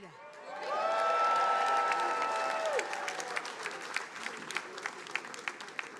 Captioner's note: attendees applauding